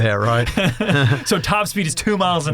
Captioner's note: laughs